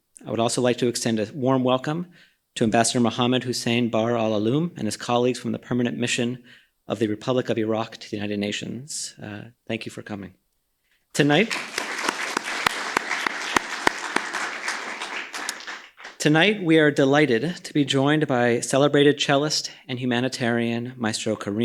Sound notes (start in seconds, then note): 11.2 applause